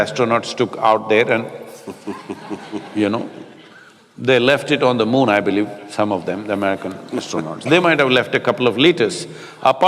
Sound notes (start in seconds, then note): 1.7 Matthew laughs